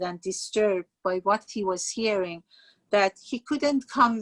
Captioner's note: speaking Farsi